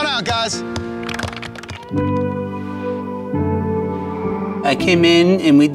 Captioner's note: emotional music; group clapping